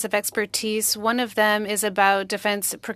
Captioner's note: speaking French